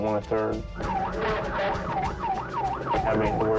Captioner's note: police siren